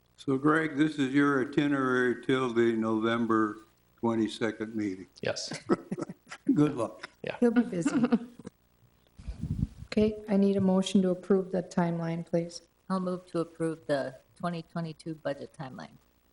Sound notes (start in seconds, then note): 5.4 people chuckling